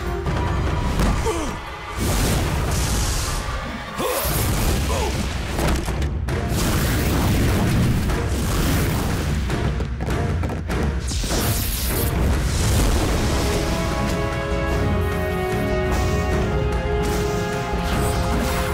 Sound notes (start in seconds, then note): 0.6 groaning; 3.6 grunting